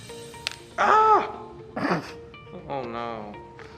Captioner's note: crying in despair for he had broken the film strip